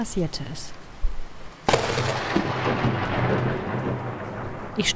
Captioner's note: thunder